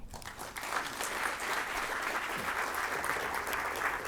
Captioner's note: applause